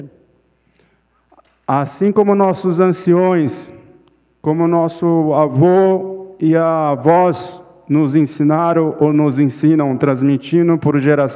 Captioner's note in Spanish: Ponente habla en portugués